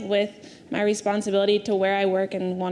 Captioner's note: none